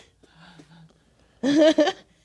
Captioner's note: laughing; players laughing quietly